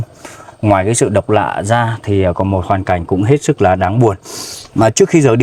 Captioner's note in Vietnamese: khịt mũi